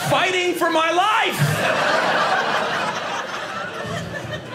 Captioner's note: audience laughing